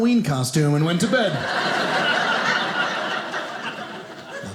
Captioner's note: audience laughing